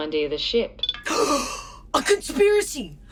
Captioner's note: Dusty GASPS